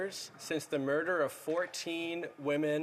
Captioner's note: speaking French